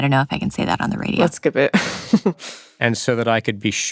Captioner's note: laughs